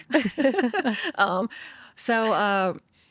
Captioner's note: both laughing